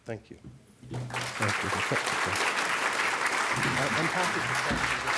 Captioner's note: applause